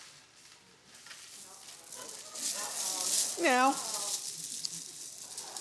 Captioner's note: beads rattling